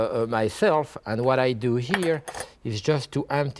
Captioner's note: strainer clinks